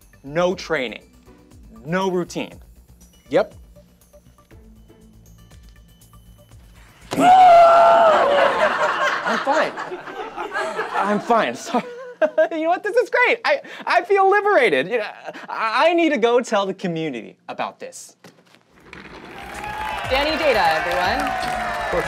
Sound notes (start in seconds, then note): 7.1 screams; 8.0 audience laughs; 12.2 laughs; 19.0 audience cheers